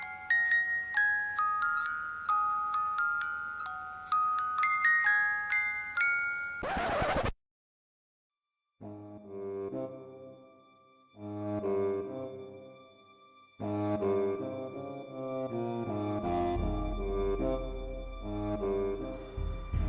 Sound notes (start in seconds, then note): 6.6 record scratch